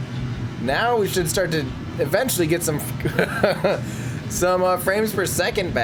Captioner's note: laughing